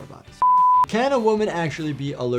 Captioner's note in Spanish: pitidos de producción